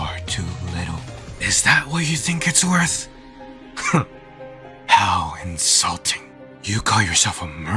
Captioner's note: scoffs